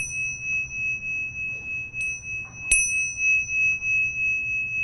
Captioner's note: bell ringing